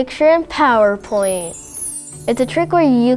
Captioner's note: magical chimes